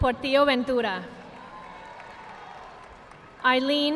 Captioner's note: audience applauding